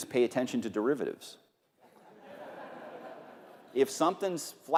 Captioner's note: laughter